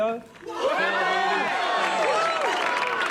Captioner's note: crowd cheering